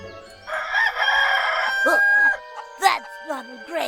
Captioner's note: rooster crows